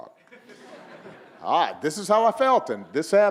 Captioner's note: audience laughing